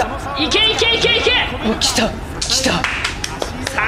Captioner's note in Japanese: 拍手